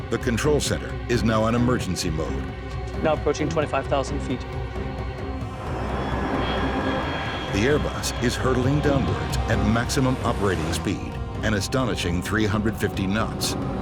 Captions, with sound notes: The control center is now on emergency mode. - Now approaching 25,000 feet. (turbines whining) - [Voiceover] The Airbus is hurtling downwards at maximum operating speed, an astonishing 350 knots.